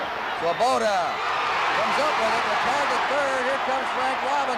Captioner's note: crowd cheering